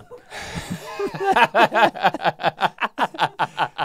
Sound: both laughing

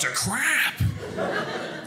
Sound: audience laughing

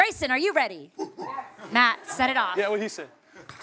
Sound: hoots

